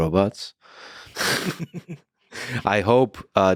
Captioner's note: both laughing